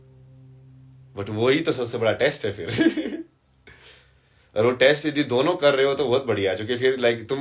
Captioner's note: हंसी